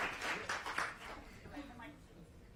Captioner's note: applause